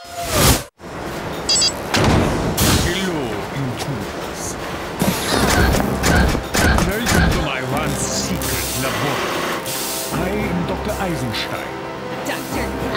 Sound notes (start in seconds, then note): 1.4 beeping; 6.6 grunting